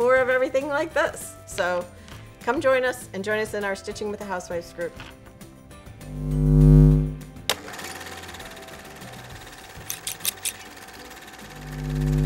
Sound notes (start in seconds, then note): 6.1 upbeat music; 6.7 sewing machine whirring